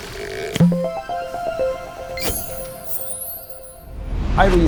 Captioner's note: playful chime